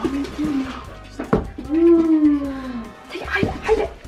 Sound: gasps

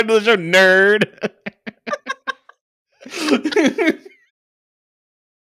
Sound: both guffawing

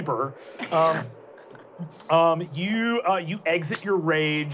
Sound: laughing

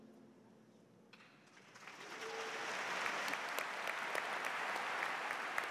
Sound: audience applauds

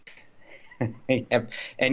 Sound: laughs

